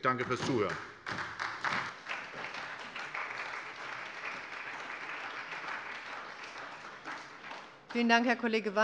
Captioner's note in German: Beifall bei der SPD